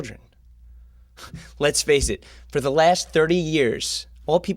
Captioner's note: scoffing